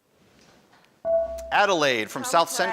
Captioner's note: buzzer dings